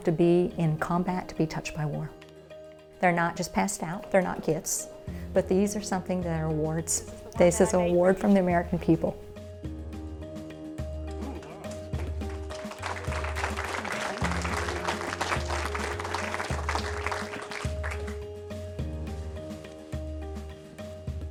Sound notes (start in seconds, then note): 11.5 audience applauding; 18.4 emotional music